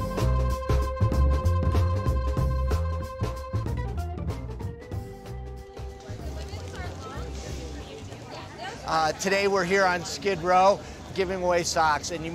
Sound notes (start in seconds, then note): 5.6 people chattering